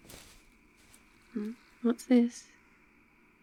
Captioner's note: rustling bag